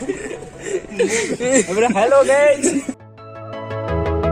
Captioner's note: idiotic Laughs From Boys And Says Hello Guys